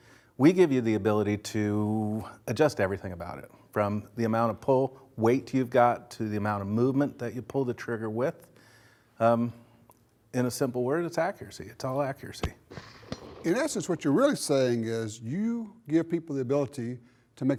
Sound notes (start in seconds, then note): 12.7 gun shot